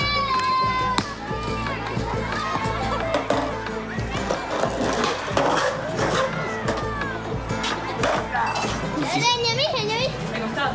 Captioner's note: upbeat Music; speaking In Foreign Language